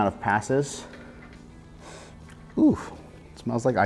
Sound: sniff

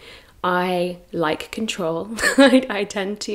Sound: laughs

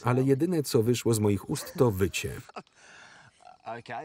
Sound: laughter

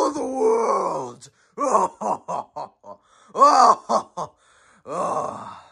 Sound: laughter

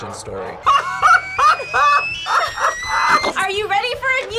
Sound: laughs; steam whistles

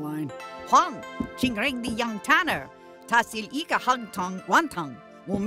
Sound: speaks in foreign language

